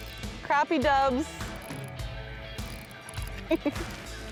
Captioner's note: laughs